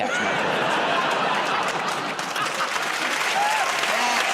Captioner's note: laughter; cheering and applause